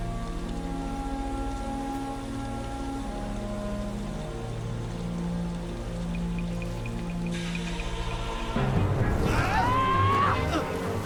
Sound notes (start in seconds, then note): 9.1 yells